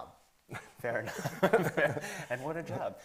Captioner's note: everybody laughing